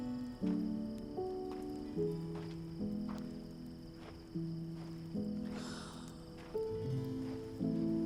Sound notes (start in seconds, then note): 5.6 Clive sighs